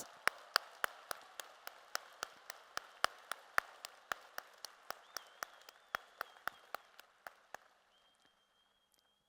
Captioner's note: applause